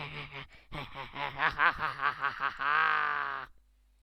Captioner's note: evil laugh